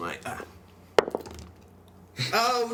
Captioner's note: dice roll